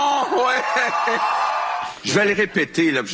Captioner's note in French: applaudissements